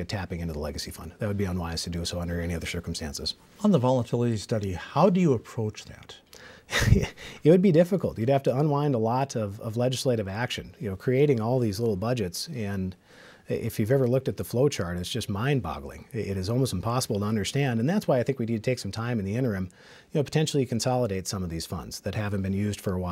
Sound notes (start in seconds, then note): 6.7 laughs